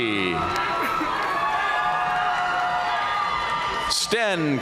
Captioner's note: audience cheering and applauding